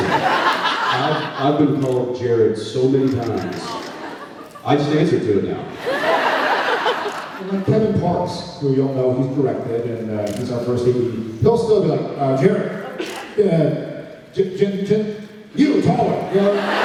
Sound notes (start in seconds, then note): 0.0 laughs; 5.8 laughs